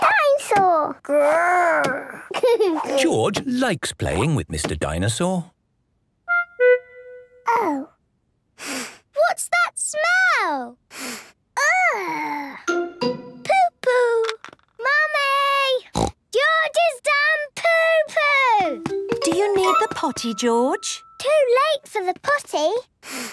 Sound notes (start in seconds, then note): 2.2 giggles; 8.6 sniffs; 10.9 sniffs; 15.9 snorts